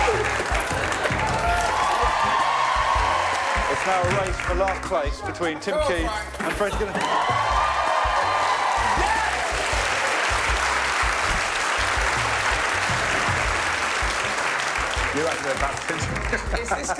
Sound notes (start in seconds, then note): 0.1 cheers; 6.5 applause